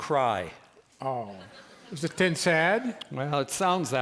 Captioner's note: speaks soothingly; laughter